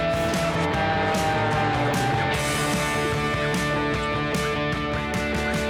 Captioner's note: airplane engine whirs